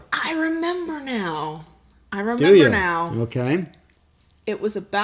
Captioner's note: none